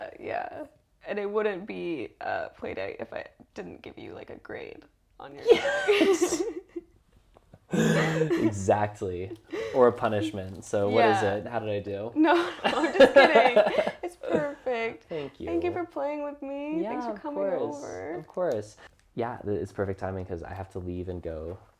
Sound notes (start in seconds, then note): 7.7 laugh